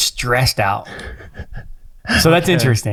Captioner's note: chuckles